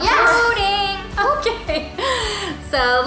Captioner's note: laughing